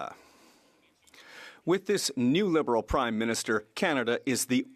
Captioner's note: speaking French